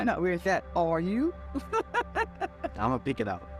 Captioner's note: laughs